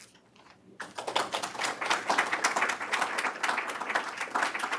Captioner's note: loud applause